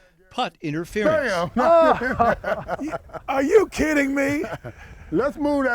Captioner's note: laughter